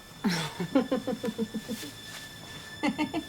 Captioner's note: giggling